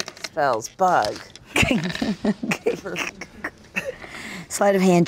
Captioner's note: laughs